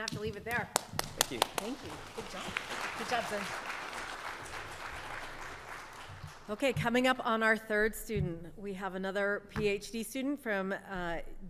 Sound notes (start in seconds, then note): 0.5 claps; 1.6 audience clapping; 4.3 audience clapping continues